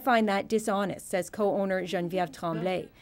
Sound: speaking French

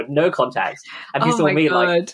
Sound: laughing

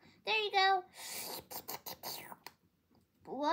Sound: sip loudly

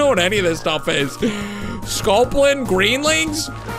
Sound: gasps

